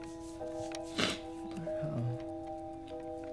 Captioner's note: sniffles